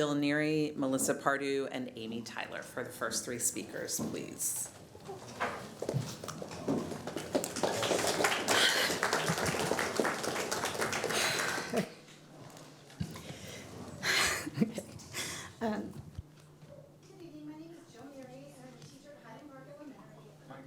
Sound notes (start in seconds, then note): 12.4 applause